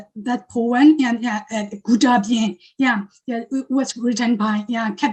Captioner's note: speaking foreign language